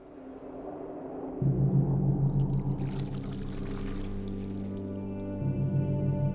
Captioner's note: chocolate splashing